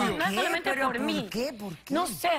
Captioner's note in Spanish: Hablan al unísono